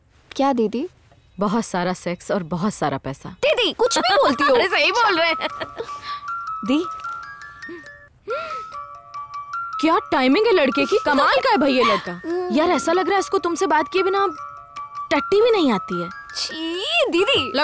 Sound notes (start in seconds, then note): 4.0 Cellphone rings; 4.0 Laughs